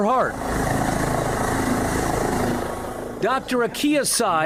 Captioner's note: helicopter whirring